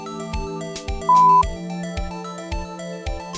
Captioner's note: positive beep!